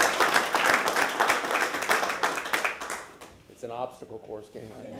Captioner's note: applause